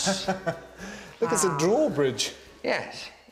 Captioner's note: laughs